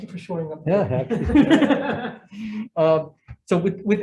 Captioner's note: members laughing